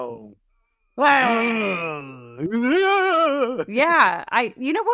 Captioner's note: monster sounds